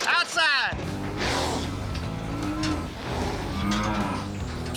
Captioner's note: blowing, cows moo